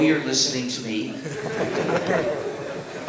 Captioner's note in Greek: Γέλια στο ακροατήριο